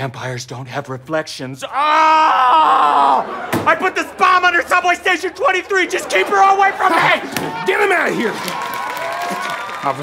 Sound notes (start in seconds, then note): 7.3 bang; 8.3 audience cheers